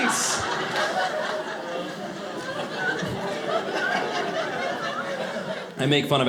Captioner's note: audience laughing